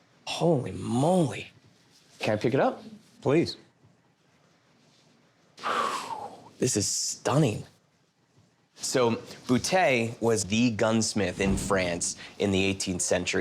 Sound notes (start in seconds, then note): 5.3 exhales